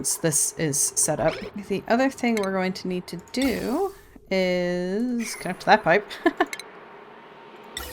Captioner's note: laughs